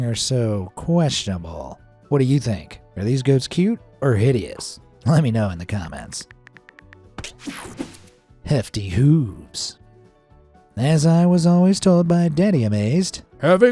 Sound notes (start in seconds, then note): 6.3 cell phone keyboard clicking